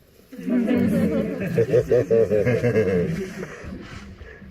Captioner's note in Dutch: gelach